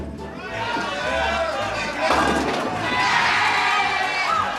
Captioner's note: crowd cheering